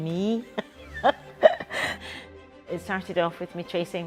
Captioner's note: laughs